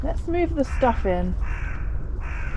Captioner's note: crow cawing